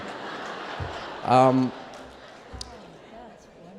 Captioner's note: laughter